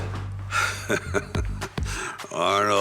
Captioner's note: Sylvester chuckles